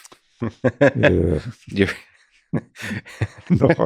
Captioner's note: laughing